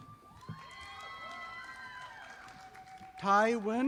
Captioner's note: audience applauding